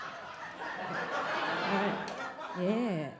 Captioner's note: audience laughing